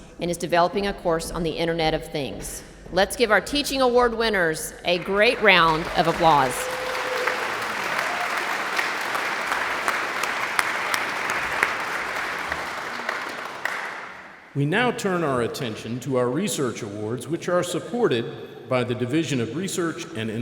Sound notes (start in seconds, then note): 6.5 audience applauds